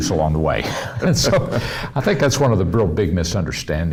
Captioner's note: laughs